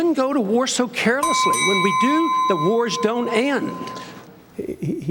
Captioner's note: bell dings